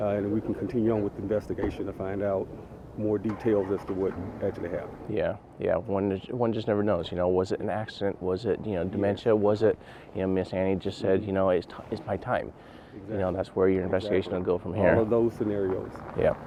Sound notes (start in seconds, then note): none